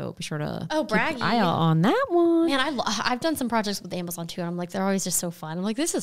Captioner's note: none